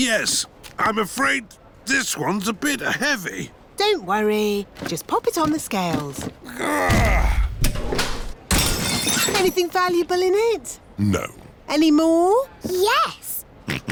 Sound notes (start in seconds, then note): 6.5 grunts; 8.6 crashes